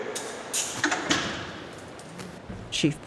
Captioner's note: lock clicks, cell door closes in distance